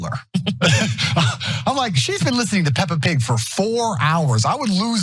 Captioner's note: laugh